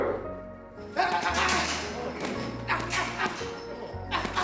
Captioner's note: grunting